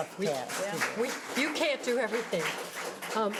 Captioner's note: audience applause